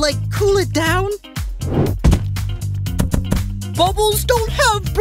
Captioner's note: Thudding as Teardrop lands on the sun